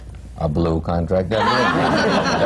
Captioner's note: laughter